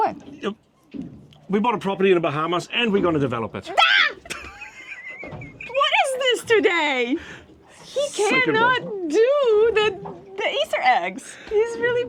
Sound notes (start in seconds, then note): 3.7 yells; 4.2 laughs